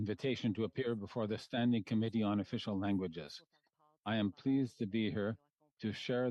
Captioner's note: speaking French